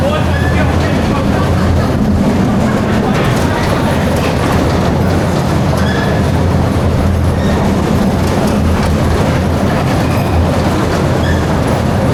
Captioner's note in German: gelächter